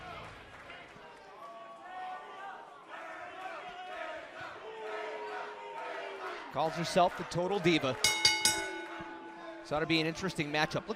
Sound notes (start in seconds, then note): 2.8 fans chanting; 8.0 bell ringing